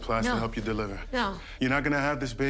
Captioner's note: none